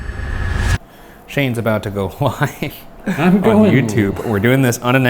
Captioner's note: deep ominous music swelling; laughing